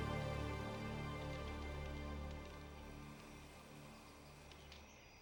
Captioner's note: fire crackling